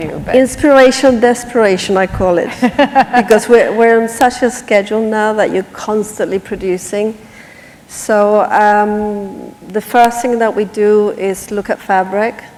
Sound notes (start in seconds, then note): 2.5 laughter